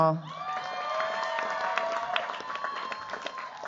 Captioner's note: cheers, applause